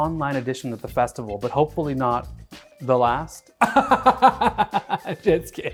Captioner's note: laughs